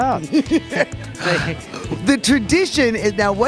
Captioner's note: laughter